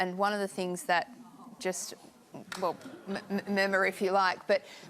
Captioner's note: audience murmurs and groans